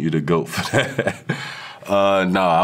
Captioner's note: DK laughing